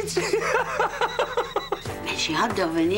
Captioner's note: Il éclate de rire